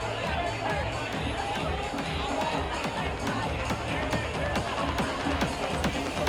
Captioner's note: energetic music; guests chattering